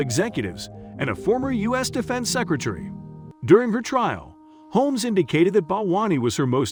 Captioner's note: encouraging